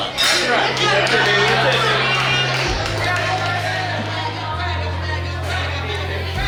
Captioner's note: cheering & Clapping